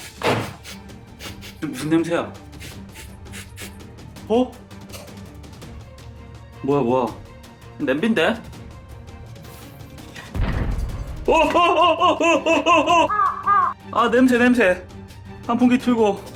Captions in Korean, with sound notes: (킁킁킁) 이거 무슨 냄새야 (킁 킁 킁) 어? 뭐야뭐야? 냄비인데? 아 냄새 냄새 환풍기 틀고